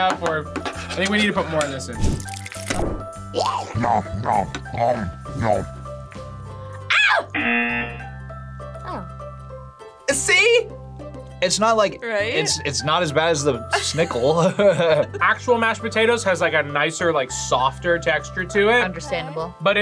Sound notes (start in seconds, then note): 7.3 buzzer; 14.3 laughs